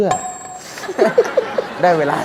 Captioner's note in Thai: หัวเราะ